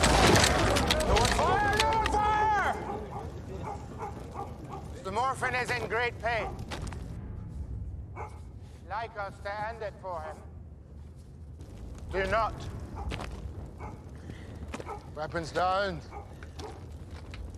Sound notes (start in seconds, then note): 5.4 background dog barking